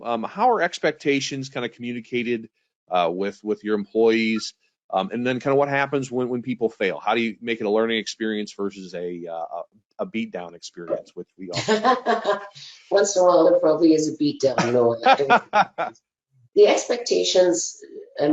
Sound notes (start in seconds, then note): 11.5 laughing; 14.6 laughing